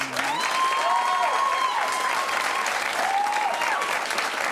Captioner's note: cheering